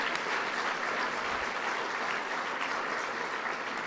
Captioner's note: applause